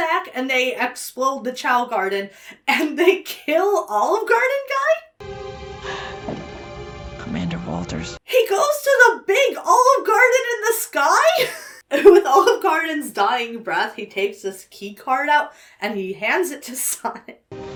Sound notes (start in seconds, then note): 5.2 mournful music; 5.8 Commander Walters exhales; 17.5 sorrowful music